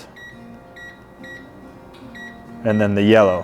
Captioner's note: remote beeping